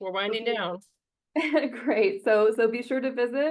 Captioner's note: chuckles